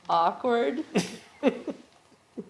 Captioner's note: laughter